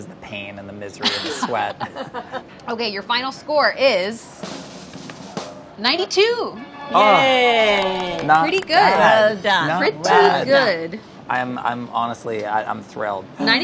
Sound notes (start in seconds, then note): 1.0 laughing; 4.2 drum roll